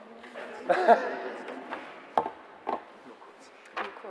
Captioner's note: laughter